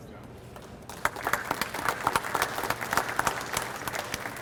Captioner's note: audience applauds